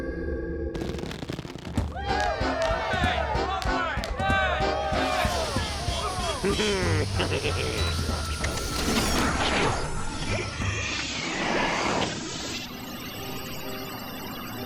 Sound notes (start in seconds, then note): 2.0 cheers and laughter; 6.0 chuckles; 10.9 suction noise; 13.1 electric whir